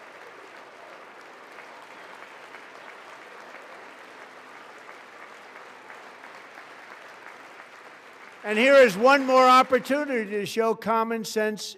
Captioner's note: applause